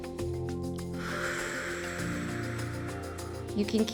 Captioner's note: exhales; inhales